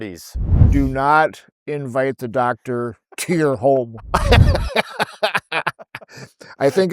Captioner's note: laughing